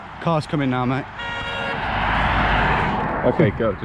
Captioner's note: car beeps